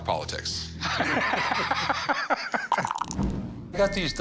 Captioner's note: laughter